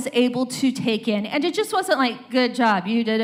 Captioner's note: robotic voice